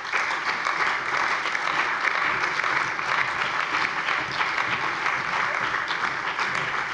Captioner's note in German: Allgemeiner Beifall